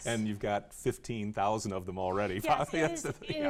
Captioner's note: laughs